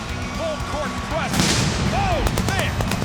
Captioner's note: explosion ringing out